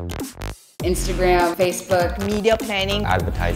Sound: woman's Voice

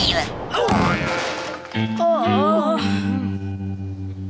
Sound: thudding; groaning

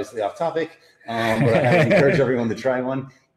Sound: both laughing

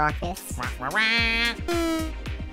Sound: commanding squawk

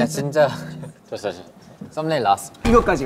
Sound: haha

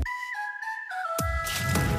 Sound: whistle toots

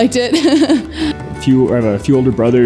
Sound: laughs

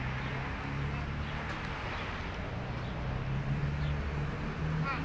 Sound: car engines grumbling

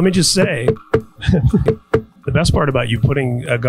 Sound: thumps on mic; laughs

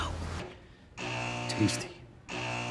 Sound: buzzing

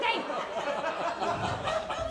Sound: laughter

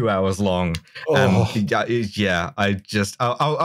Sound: groans like he's been shot

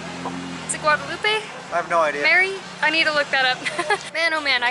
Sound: laughter

